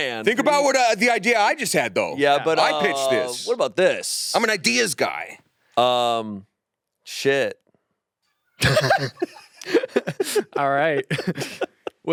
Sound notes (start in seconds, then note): 8.6 all laughing; 8.6 laughs